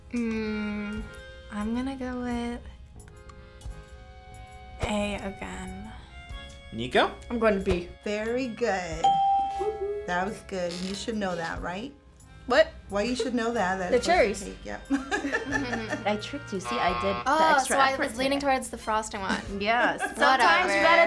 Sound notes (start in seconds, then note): 9.0 bell rings; 14.9 laughs